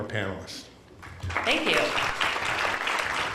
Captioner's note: applause